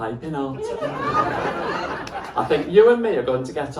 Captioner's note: laughter